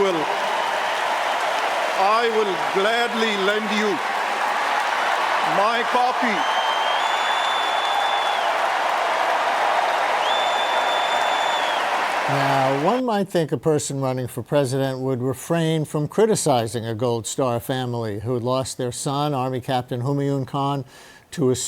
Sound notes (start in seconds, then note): 7.2 cheers and applause